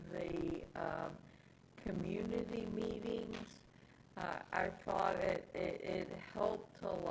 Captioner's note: audio distortion